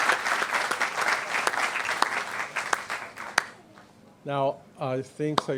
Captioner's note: applause